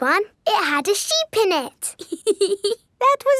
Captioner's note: laughs